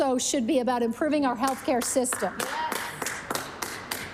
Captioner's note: applause